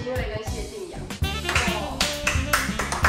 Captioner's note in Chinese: 掌聲